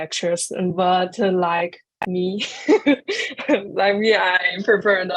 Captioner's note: chuckles